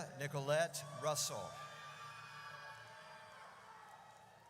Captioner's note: audience cheers